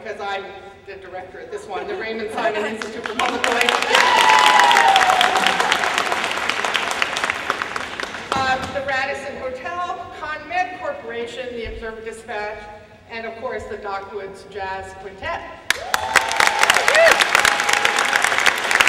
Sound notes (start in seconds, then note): 3.1 cheering and applause; 15.6 applause